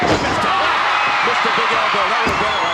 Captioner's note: audience cheering